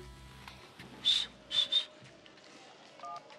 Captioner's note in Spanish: silbidos